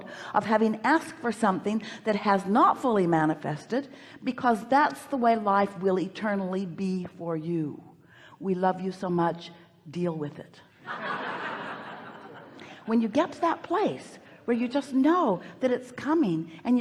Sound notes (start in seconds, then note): 10.8 audience laughs